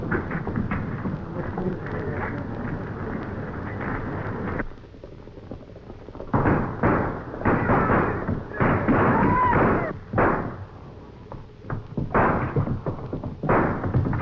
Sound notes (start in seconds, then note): 6.3 gunshots banging